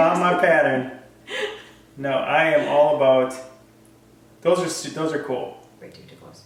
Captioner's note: laugh; laugh